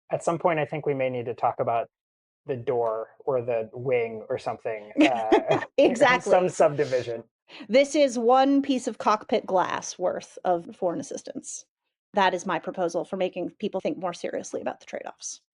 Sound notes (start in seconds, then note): 4.6 chuckles